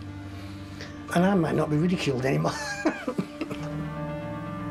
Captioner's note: laughs